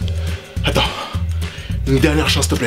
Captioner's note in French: soupir